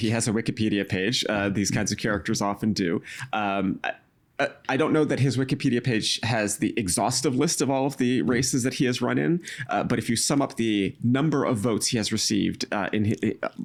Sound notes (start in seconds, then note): 3.0 stammering